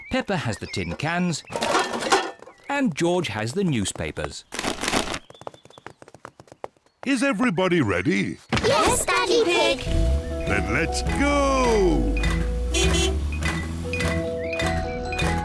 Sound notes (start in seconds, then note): 1.5 cans rattle; 4.8 papers thud; 12.6 horn honks